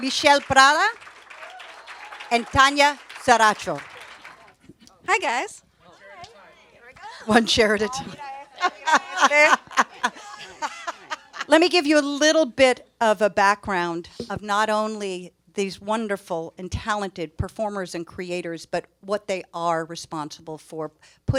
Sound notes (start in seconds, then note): 8.5 panelist laughs